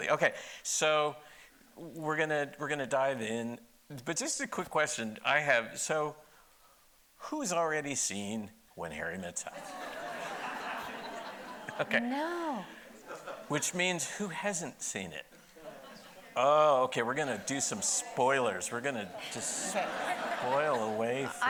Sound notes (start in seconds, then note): 9.5 audience laughing; 15.5 audience laughing